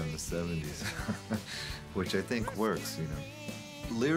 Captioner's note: laughs